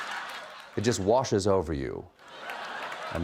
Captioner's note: laughter; laughter